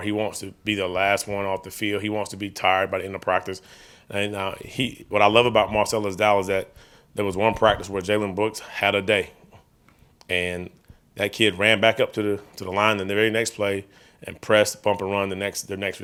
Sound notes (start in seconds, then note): none